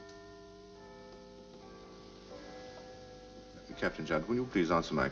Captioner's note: clocktower bell ringing